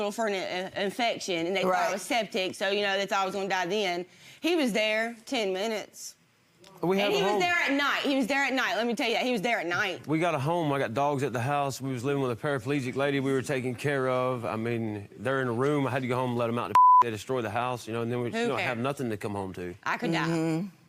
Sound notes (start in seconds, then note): 16.7 beep